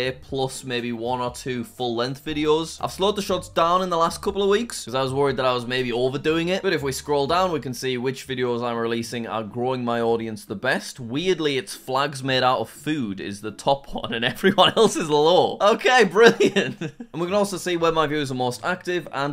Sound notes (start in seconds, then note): 16.2 laughs